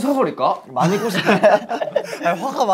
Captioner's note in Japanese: アハハ